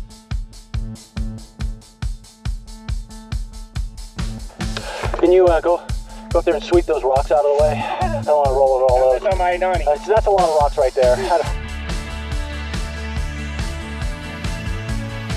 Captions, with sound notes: Can you go, go up there and sweep those rocks out of the way? [laughing] I don't want to roll over all those That's a lot of rocks right there